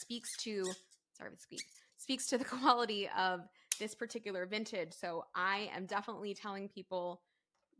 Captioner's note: cork squeaking